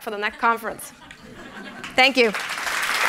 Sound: laughter; applause

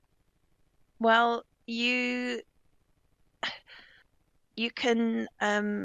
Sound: exhaling

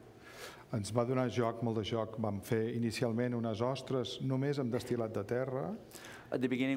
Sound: speaking catalan

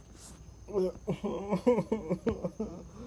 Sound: sobbing

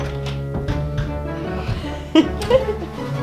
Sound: laughing

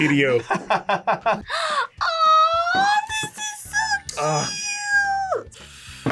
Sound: laughs; gasps

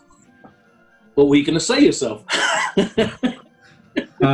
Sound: laughing

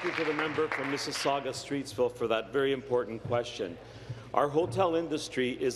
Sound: applause

